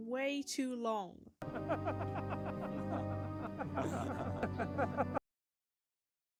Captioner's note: awkward villainous laughter